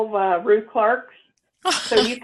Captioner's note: chuckling